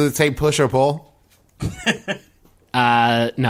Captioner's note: Merle laughs